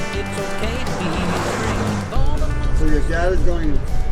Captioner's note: engine revving drowns out music